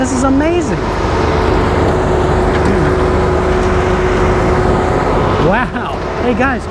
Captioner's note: machine whirring